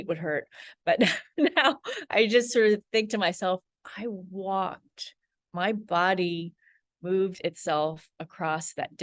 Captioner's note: laughs